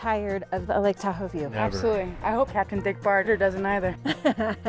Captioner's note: chuckles